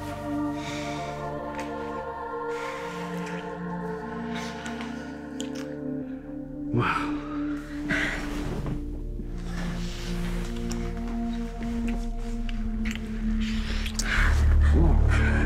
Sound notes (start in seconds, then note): 7.9 Jenelle exhales; 14.1 Jenelle breathing heavily; 14.5 man moaning; 15.0 ominous music